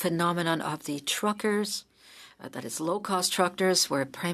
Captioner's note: speaking French